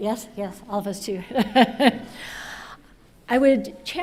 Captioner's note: laughs